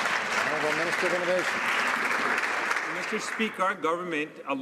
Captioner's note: some Applause